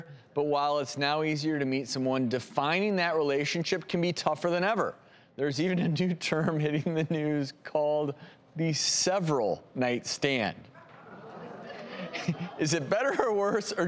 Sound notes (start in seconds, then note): 10.8 audience murmuring